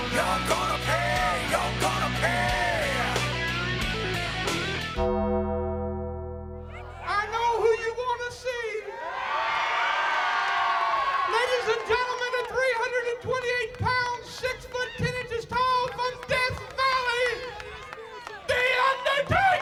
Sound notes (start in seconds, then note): 3.8 upbeat rock music continues; 4.8 dramatic music; 9.1 crowd cheering